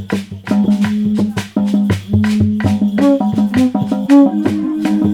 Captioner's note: horn starts